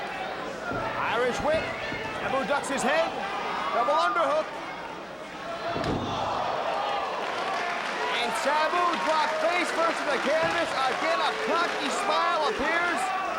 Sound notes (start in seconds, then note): 6.0 spectators exclaiming; 7.2 spectators cheering and applauding